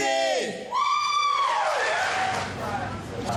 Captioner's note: applause